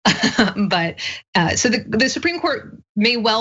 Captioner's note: laugh